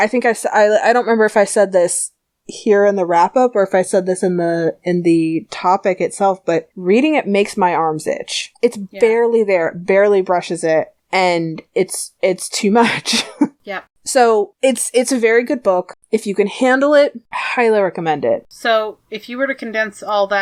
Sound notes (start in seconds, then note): 12.8 laughs